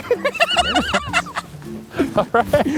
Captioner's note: laughs